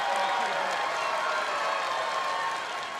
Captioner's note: cheers & applause